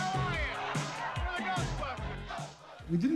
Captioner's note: crowd cheering